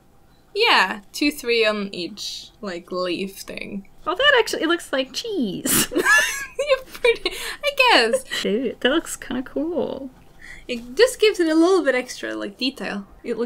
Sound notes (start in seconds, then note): 5.7 laughter